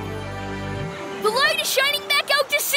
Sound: cheering

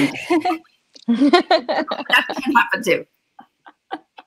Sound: laughing

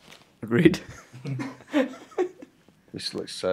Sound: laughs

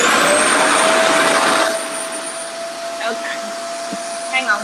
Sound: RevAir whirs

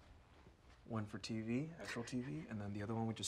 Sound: Diego laughs

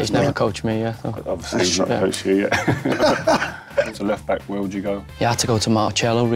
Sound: laughs

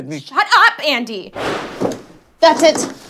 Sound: gunshots

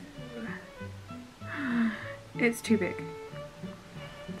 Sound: gasp!

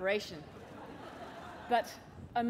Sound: laughter

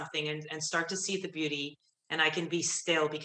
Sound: none

